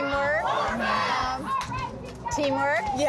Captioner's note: group cheering